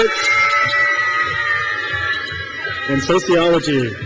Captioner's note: crowd cheers